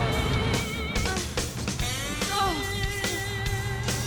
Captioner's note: breathing heavily